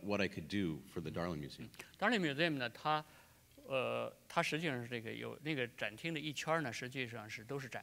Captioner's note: speaking in Chinese